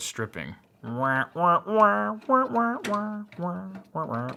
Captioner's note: humming